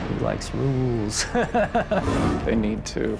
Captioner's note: laughs